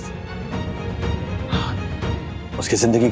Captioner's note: sighs